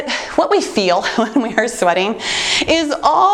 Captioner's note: chuckles